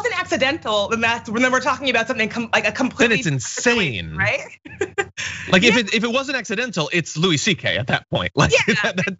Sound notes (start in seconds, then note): 3.2 laugh